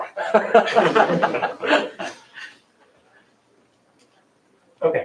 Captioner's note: laughter